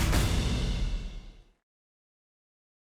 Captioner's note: applause